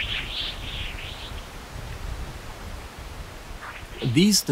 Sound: windy, chirping sounds

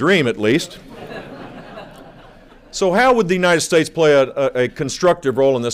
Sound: laughter

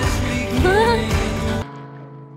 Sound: laughs

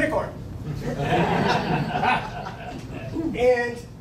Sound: laughing

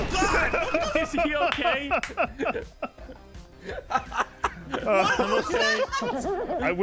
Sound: laughs

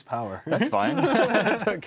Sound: both laugh

